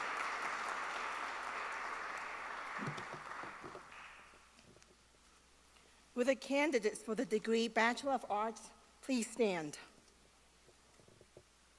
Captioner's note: applause